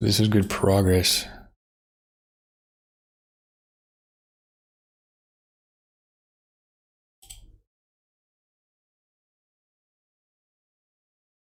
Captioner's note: blank Audio